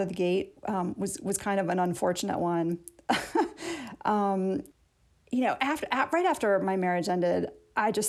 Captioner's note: laughter